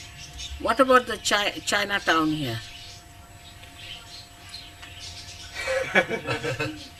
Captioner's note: laughter